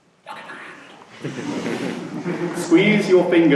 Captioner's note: laughter